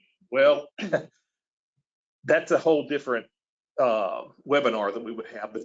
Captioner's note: laughs